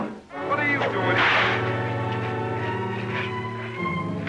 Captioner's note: cracking whip